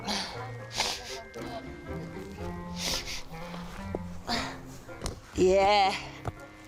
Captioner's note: sniffling